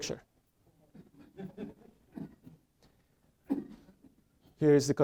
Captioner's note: audience laughing